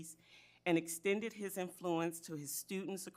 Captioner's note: none